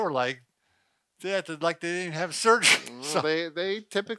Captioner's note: laughs